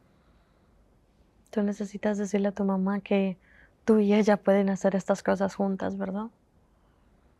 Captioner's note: Spanish